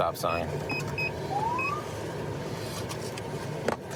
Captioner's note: siren chirps